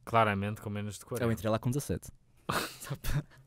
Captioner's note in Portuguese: risos